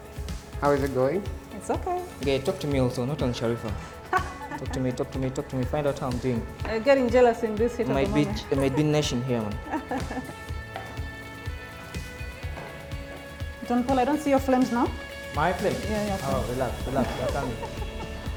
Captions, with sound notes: how is it going? It’s okay. Okay, talk to me also, not only Sharifa. Talk to me, talk to me, talk to me. Find out how I am doing. You are getting jealous in this kitchen. [background chatter] John Paul, I don't see your flames now. My flame? Yeah, yeah. Oh, relax, relax they are coming